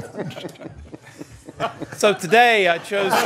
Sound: laughter

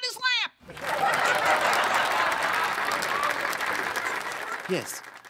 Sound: laughter/applause

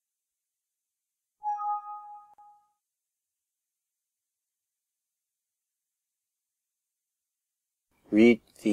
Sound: alert

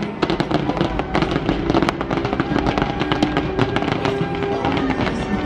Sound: fireworks popping

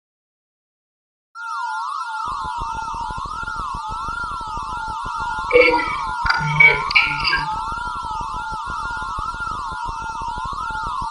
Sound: sound of alien communication

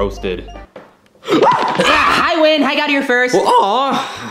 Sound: Yoshi yells

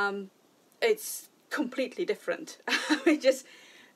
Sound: laughing

